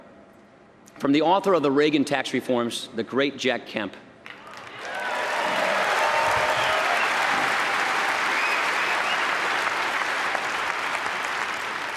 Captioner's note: applause